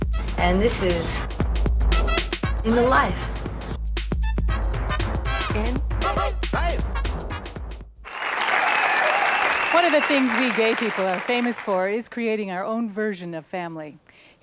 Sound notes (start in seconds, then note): 7.0 man shouts; 8.0 applause and whistles; 8.0 applause fades